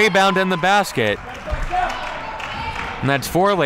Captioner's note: crowd clapping